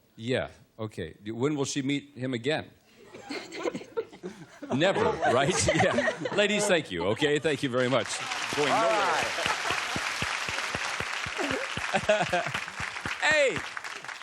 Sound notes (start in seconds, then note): 3.0 laughter; 9.3 applause; 11.3 chuckles